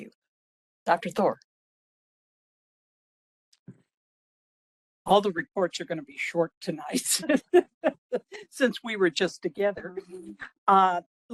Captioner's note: laughing